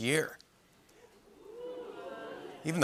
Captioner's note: oohing